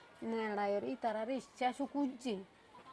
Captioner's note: none